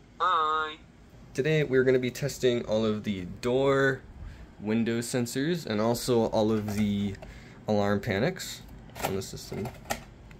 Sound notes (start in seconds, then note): none